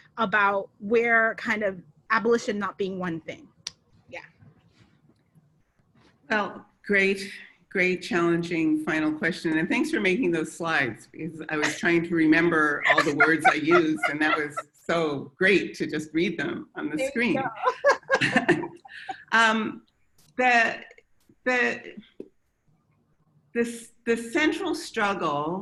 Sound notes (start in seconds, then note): 12.4 laughs; 17.1 both laugh